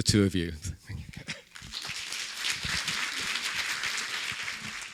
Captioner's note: audience applauding